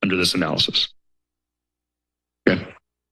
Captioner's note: silence